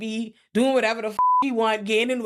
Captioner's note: beep